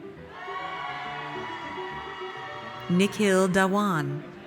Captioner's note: audience cheers